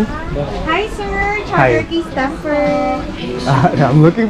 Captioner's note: foreign language